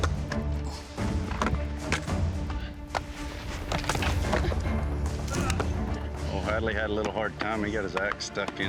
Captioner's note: chopping